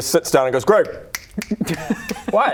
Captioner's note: snap snap snap